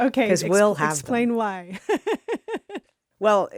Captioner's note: laughs